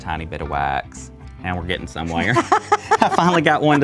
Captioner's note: laughs